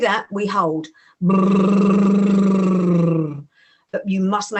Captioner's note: bbbrrrr